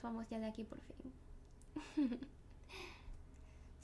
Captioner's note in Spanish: risas